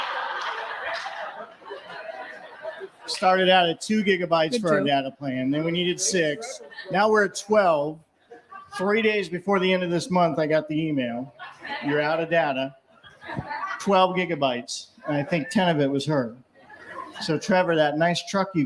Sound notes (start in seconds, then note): 3.0 laughter